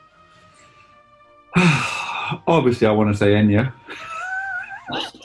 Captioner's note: sighs; chuckling